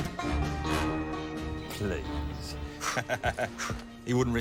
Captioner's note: laughs